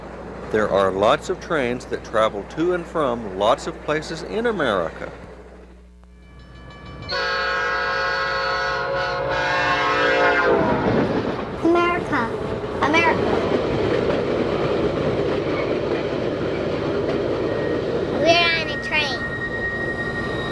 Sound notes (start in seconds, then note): 6.1 crossing bells dinging; 6.9 train hoots; 10.2 train whirs; 13.4 train whirs